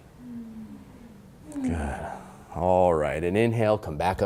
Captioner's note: class sighing